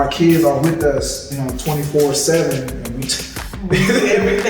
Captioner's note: laughs